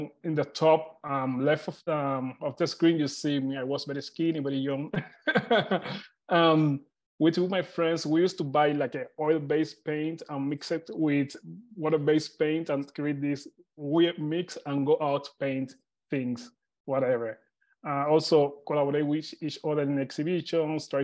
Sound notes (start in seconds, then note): 5.0 laughs